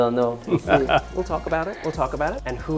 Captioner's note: chuckling